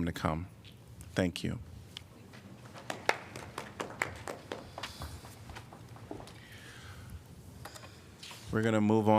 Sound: applause

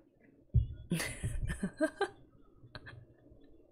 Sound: laughs

